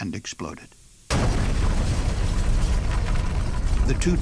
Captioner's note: sound of explosion